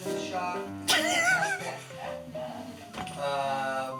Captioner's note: laughs